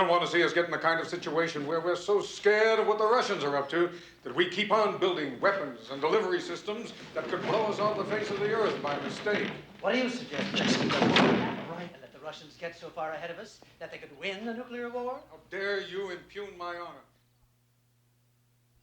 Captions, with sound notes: I just don't want to see us get in the kind of situation where we're so scared of what the Russians are up that we keep on building weapons and delivery systems that could blow us off the face of the Earth by mistake. What do suggest-- (WHISPERING) Just close it, all right? --and that the Russians get so far ahead of us, that they could win the nuclear war? How dare you impugn my honor.